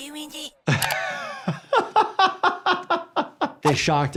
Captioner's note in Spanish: el doctor se ríe